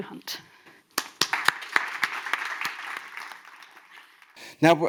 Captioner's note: audience applauds